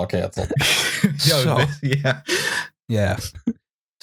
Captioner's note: laughing